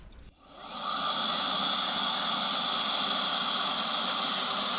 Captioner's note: air duster whirring